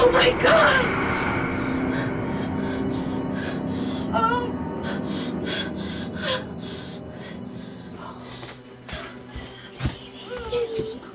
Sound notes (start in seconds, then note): 4.6 breathing heavily